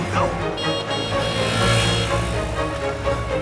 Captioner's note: horn honking